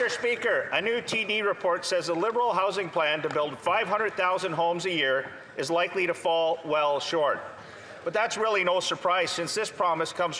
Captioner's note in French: voix de l'interprète